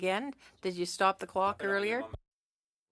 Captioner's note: speaking French